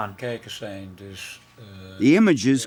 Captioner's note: scientist speaking foreign language